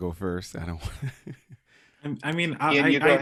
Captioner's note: chuckles